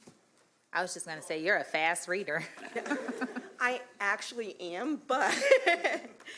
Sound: laughter

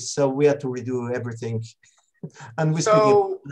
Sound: laughs

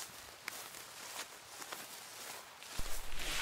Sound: footsteps

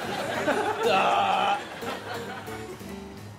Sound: groaning

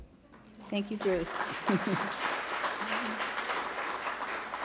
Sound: applause

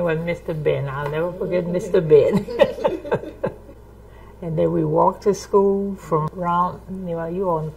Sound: laughs

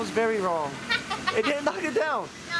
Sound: laughing

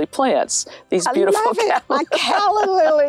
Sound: laughs

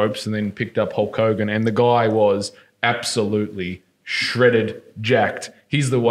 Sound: none

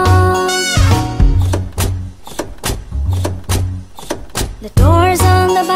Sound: doors opening and closing

